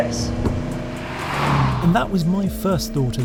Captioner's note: vehicle revs